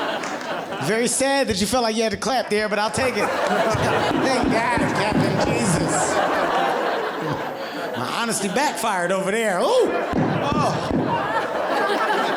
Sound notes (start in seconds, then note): 2.8 audience laughing; 3.4 clapping; 5.1 audience laughing; 9.3 clapping; 10.6 audience laughing